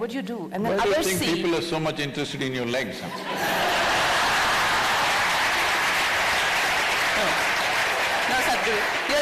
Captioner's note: laughter/Applause